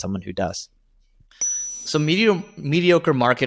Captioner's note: bell dings